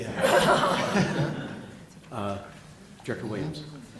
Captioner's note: laughter